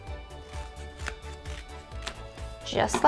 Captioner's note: scissor crunches